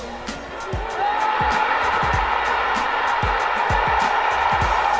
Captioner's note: cheering